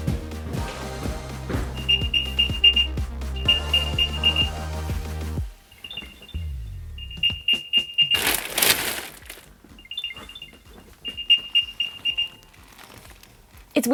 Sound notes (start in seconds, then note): 1.6 rapid beeping; 8.1 rustling through papers; 9.7 rapid beeping